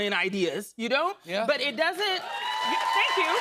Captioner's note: cheers and applause